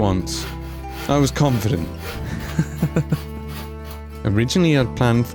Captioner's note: nervous laughter